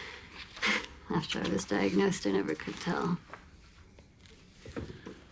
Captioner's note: scoffs